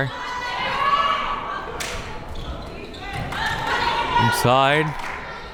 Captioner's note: crowd members shouting